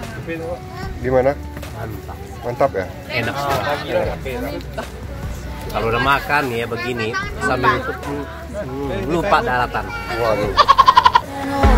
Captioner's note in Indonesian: hehehe